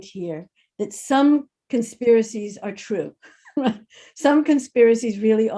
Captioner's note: laughs